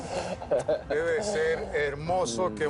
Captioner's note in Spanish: Risas